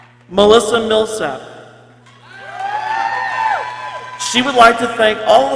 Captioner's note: people cheering